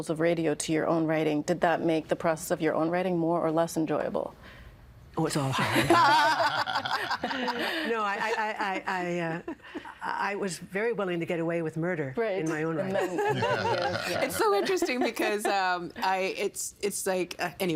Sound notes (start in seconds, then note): 5.6 laughing